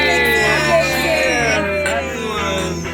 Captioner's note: clinking glass